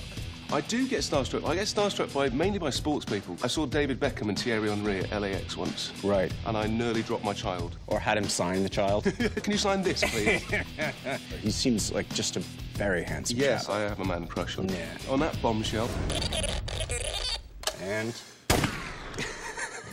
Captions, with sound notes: I do you get starstruck. I get starstruck mainly by sports people. I saw David Beckham and Thierry Henry at LAX once. Right. And I nearly dropped my child. Or had him sign the child? Can you sign this, please? --[laughs] He seems like just a very handsome champ. Yes, I have a man crush on him. On that bombshell-- And-- [gunshot]